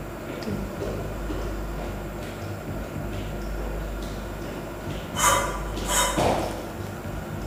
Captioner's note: sound of footsteps followed by the sound of objects rubbing